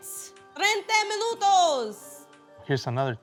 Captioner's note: speaking Spanish